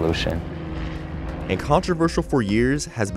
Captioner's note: airplane engine roaring